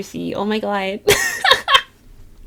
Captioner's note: laughs